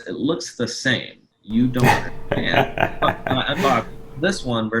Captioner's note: laughs